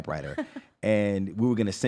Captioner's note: laughs